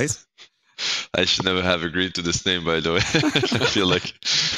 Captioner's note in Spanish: Risas